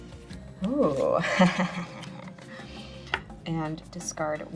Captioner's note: laughs